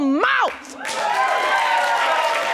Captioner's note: audience cheering